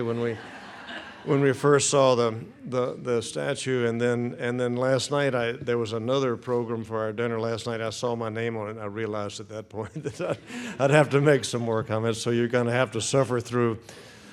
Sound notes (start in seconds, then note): 2.6 audience laughing; 9.8 chuckles